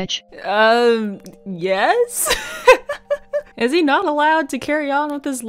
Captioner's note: laughs